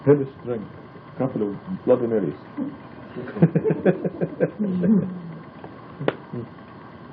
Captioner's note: laughing